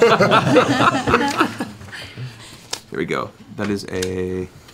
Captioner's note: laughter